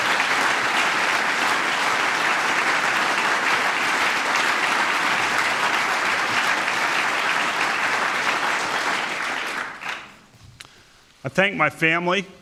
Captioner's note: applause